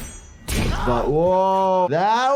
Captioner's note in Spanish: cañonazo